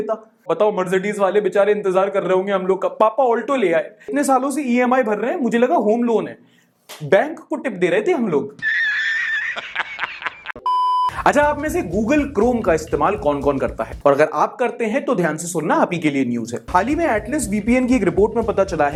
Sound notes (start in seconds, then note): 8.6 laughter; 10.6 beep